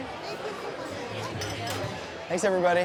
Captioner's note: people murmuring